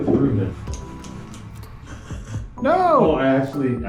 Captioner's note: fakes choking